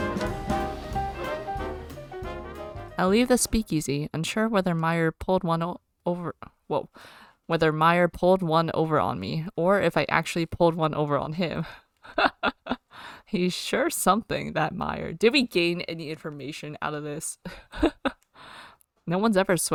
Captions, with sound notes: Did we gain any information out of this? [laughs]